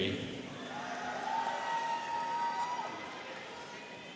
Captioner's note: students cheering